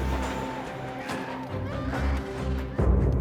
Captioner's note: battle cries and screams